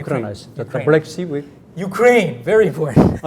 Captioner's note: speaking in Korean; laughs